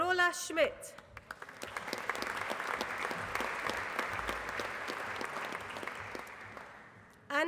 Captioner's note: applause